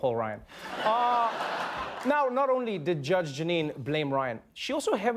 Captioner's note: laughter